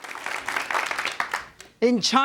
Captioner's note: crowd applauds